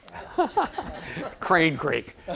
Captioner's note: audience laughing